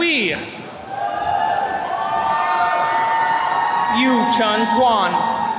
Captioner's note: attendees cheering